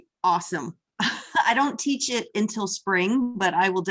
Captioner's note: laughter